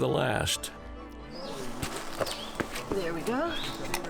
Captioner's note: crunching footsteps